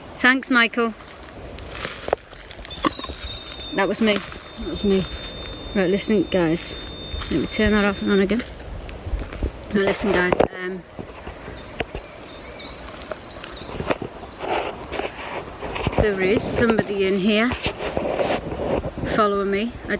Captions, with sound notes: Thanks, Michael. (leaves rustling) (beeping) That was me, now listening guys. Let me turn that off again. Listen guys. (birds chirping) There is somebody in here following me.